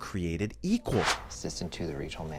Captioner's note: air whooshes